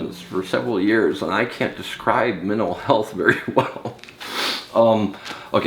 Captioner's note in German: lacht